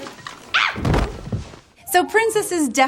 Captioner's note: screaming